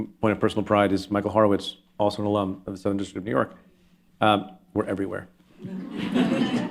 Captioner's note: laughter